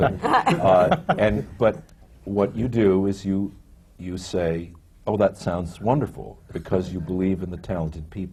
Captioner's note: laughs